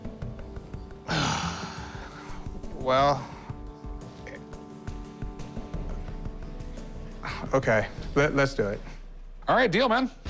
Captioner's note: sighs loudly